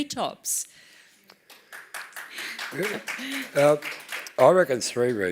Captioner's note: applause